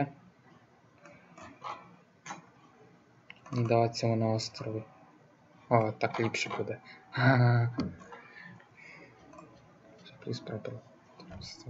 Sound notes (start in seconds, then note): 7.1 Smijecja